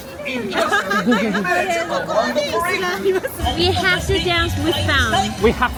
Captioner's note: all laughing